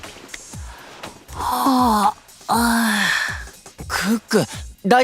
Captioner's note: yawns